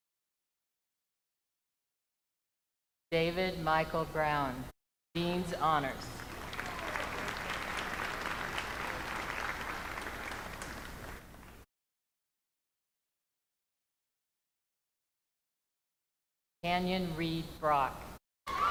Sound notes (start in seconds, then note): 3.7 names being called